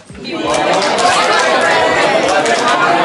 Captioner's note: audience all repeating phrase; clapping